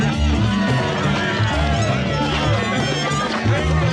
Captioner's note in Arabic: صيحات الحشد